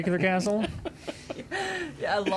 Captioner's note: laughing